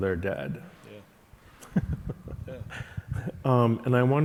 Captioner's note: chuckling